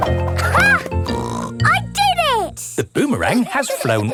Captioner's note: snorts